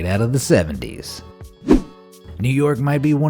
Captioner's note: air whooshing